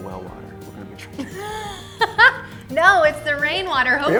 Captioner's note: laughs